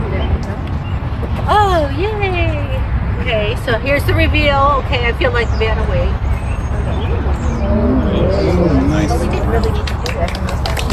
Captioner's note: applause